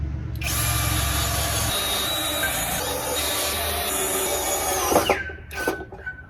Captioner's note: power drill drills powerfully